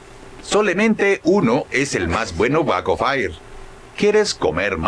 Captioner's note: speaking in Spanish